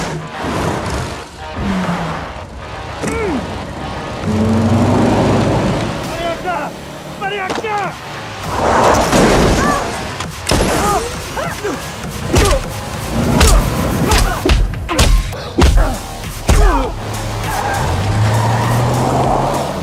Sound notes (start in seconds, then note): 6.4 in Spanish; 12.2 both grunting; 15.9 tires screeching